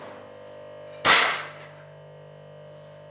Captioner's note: clacking